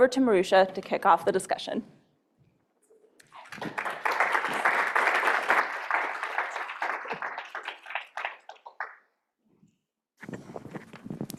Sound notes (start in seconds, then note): 3.2 audience clapping